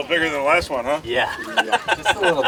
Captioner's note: laughing